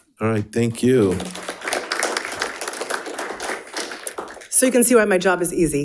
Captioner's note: attendees applauding